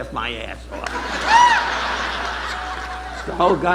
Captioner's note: audience laughing